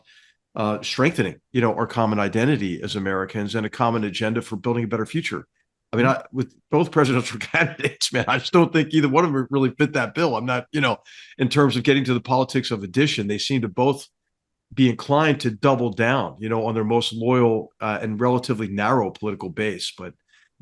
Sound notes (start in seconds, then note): 7.3 laugh